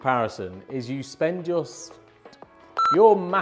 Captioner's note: beep